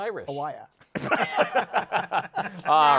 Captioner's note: laughter